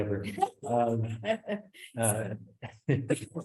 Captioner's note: laughs; laughs